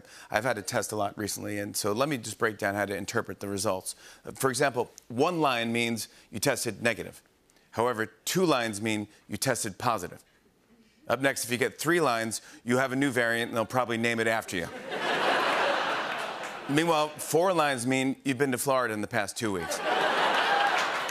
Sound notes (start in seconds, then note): 14.6 laughter